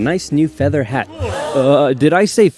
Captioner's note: gasp